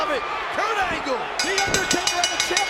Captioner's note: bell dinging